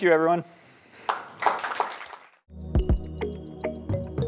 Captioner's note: applause